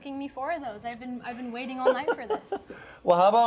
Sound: laughs

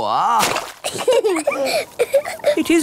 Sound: both laughing

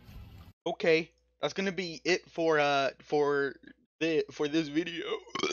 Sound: burps

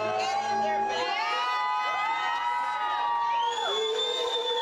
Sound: cheering

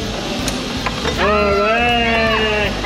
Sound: cheers

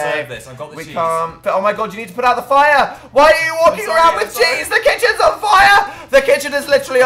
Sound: laughs

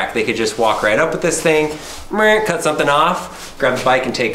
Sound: hums

